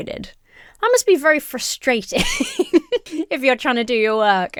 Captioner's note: laughs